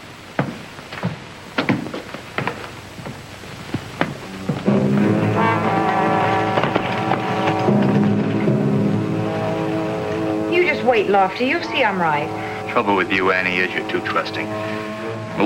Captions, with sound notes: (shoes stomping) (tense orchestral music) (horse cantering) - You just wait, Lofty, you'll see I'm right. - The trouble with you, Annie, is you're too trusting.